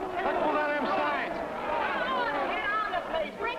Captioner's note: mob yelling